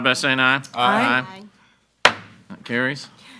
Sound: gavel bangs

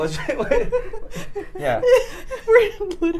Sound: laughing

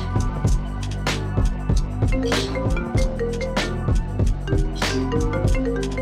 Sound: phone ringing

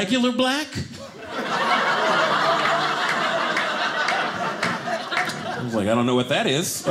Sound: audience laughing

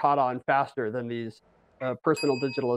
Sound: bell dings

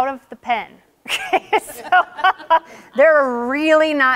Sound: laughing

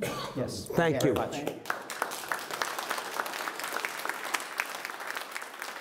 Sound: audience clapping

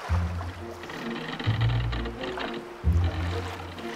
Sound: boat rocking back and forth

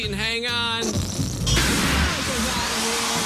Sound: farting noise

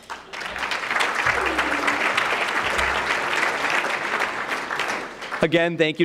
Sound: applause

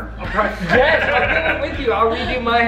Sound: laughing

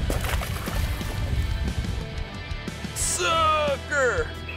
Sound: water splashing

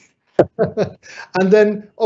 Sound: laughing

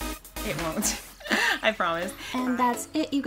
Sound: laughs

